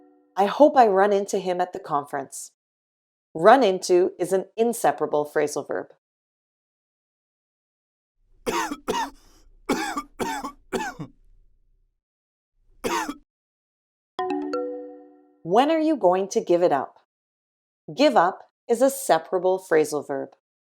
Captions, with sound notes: I hope I run into him at the conference. “Run into” is an inseparable phrasal verb. [coughing] When are you going to give it up? “Give up” is a separable phrasal verb.